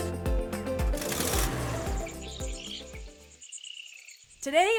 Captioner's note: birds chirping; car revving